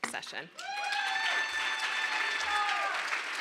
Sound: cheering

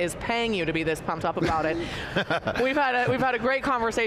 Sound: laughs

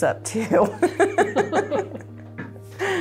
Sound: laughs

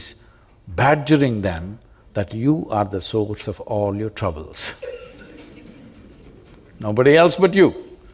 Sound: laughs

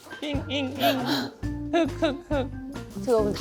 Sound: sob

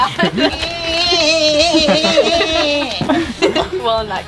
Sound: crying sound

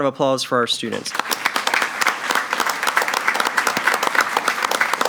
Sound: all applaud

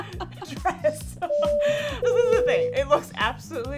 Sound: plane beeping

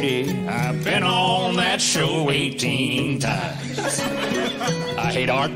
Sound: laughter

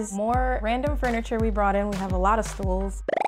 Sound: bubbles popping; upbeat music

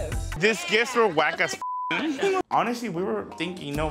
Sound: beep

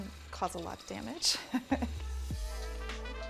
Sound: laughing; hiphop music

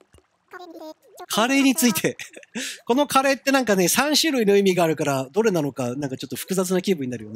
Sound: giggle

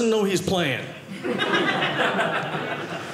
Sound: audience laughing

